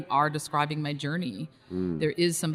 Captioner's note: host hums in recognition